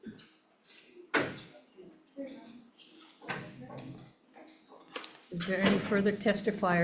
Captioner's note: chair clunks; people chattering; object thuds